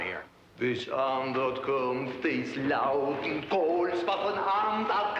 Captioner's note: speaks foreign language